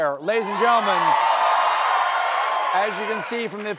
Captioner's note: cheers and applause